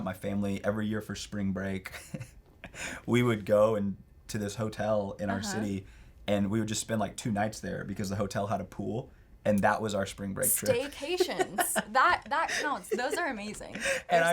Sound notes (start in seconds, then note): 3.2 chuckles